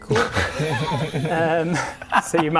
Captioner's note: over-confident laughter